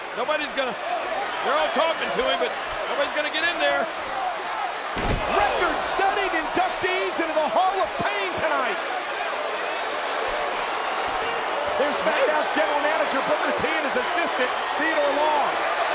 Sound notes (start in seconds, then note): 4.9 wrestler thudding; 9.3 all chattering